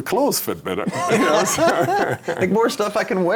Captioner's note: laughing